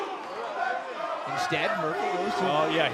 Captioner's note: fans chanting